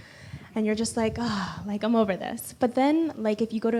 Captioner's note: sighs